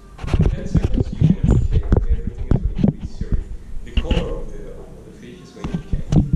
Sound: microphone static

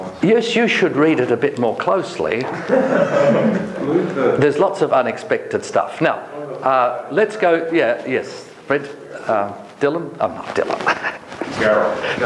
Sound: joking and laughter

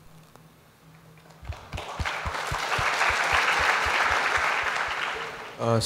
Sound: applause

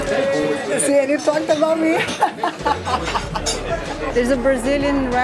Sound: laughs

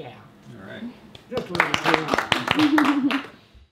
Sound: small audience clapping

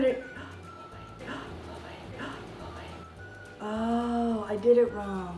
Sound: laughing

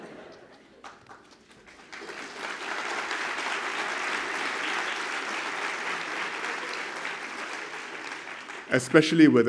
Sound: applause

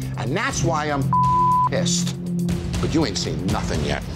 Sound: beep

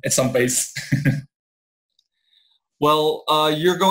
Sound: laughs

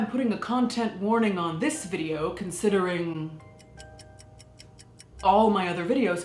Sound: clock ticking

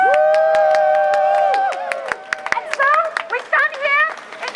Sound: crowd cheers

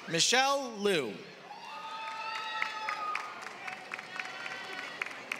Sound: applause

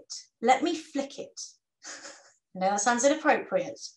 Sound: chuckles

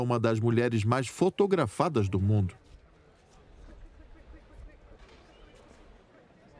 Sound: voiceover

